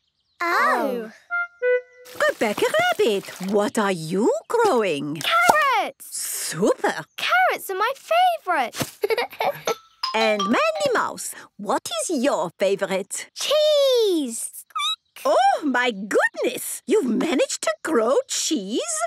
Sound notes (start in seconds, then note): 8.9 giggles